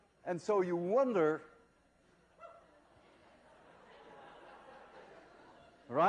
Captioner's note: laughter